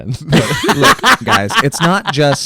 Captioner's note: laughs